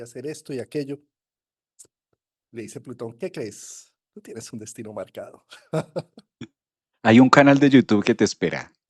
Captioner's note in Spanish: risas